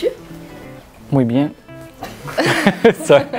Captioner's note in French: rires